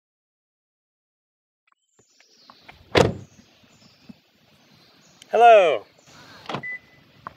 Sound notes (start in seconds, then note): 2.8 car door closing